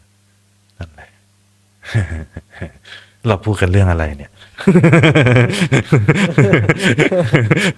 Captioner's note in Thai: เสียงหัวเราะ